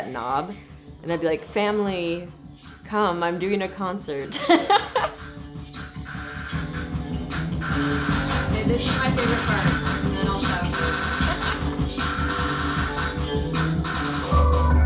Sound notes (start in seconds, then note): 4.3 laughing; 7.0 rapid drumming; 12.0 rapid drumming